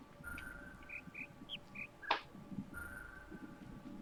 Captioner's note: bird chirps five notes